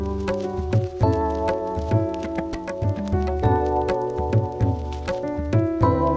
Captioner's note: The water Boiling